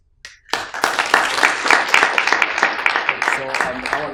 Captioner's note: audience applauding